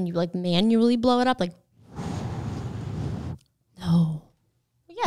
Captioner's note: blowing air out